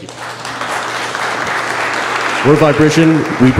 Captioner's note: audience applause